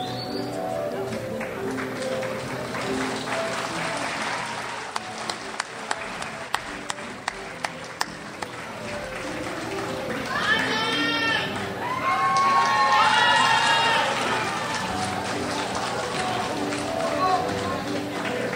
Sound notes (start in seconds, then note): 1.9 crowd applauds; 10.2 crowd shouts; 12.5 crowd applauds